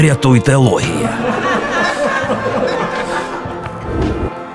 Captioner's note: Laughter